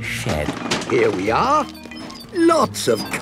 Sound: bangs and rattles

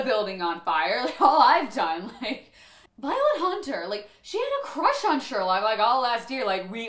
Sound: deep breath

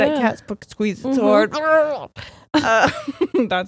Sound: grunts; both laughing

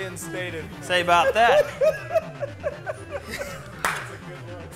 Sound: men laughing

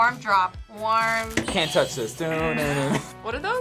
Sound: buzzer; buzzer rings

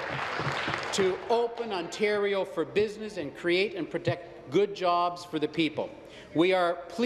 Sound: applause

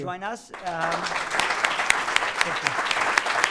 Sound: applause

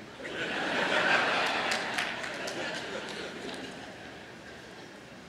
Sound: laughter

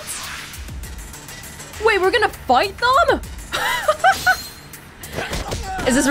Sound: chuckles

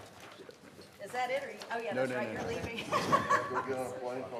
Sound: laughter

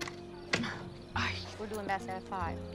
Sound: Lupe sighs

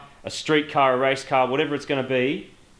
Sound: none

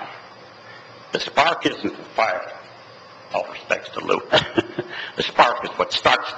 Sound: laughs

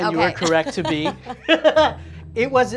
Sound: laughing

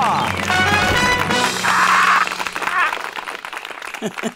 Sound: applause

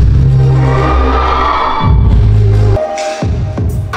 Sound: cheers of Aris

